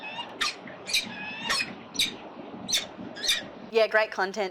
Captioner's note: bird chirping; bird chirping... that’s it